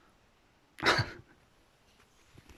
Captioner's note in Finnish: hymähdys